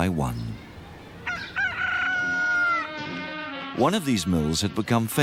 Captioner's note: cockerel crows